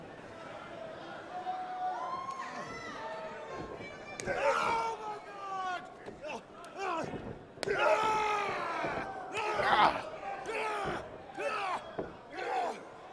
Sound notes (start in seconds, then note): 0.2 crowd chatter; 9.8 crowd chatter